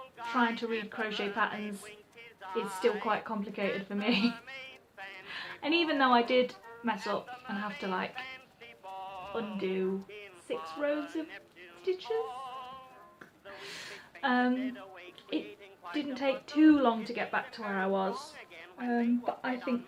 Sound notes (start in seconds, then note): 3.6 laughs